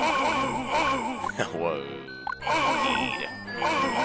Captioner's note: laughs